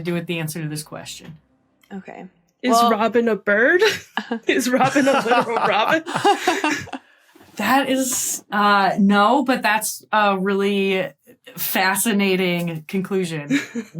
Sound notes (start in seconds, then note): 3.8 group laughing